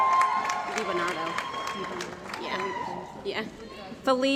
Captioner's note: cheering & Applause